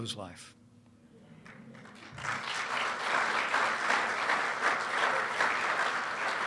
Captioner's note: applause